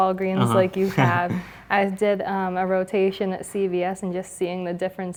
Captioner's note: laugh